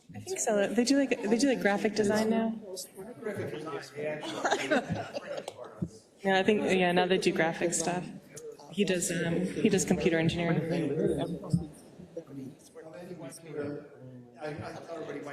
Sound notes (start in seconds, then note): 4.1 laugh